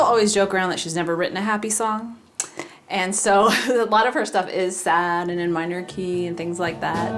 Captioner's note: laugh